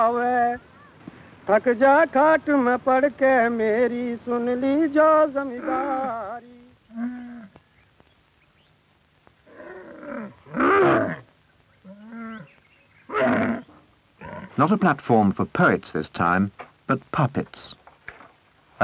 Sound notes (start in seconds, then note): 0.0 traveling storyteller singing to a group; 5.1 animals bellowing; 10.4 camels grunting